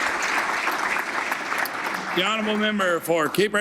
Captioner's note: applause